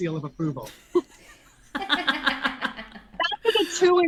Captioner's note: all laugh